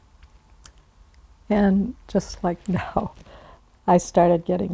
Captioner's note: chuckling